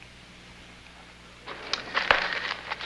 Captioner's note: newspaper rustling